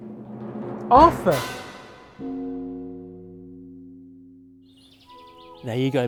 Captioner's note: bell tolls